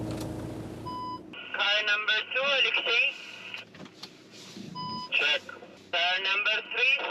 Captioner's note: radio